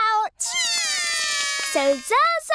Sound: both cry

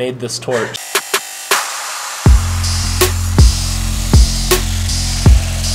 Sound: hip-hop music; electric whirring

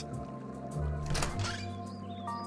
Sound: door Opens

